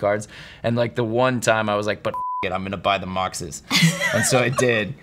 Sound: beep

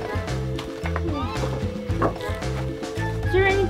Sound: wood clanking

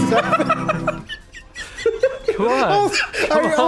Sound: wheezy Giggling; wheezing and Giggling

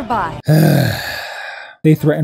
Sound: sigh

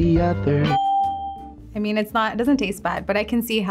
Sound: ding

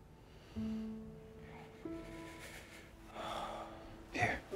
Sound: shivers

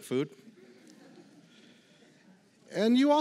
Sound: laughter

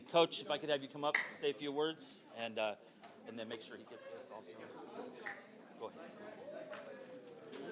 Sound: cheering

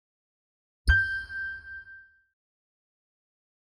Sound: bell dings

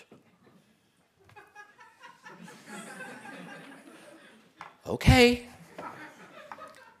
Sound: laugh

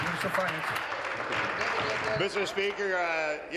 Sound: applause

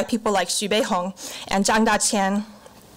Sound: foreign language

